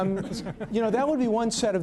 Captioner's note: laughter